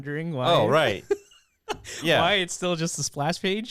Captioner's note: laughing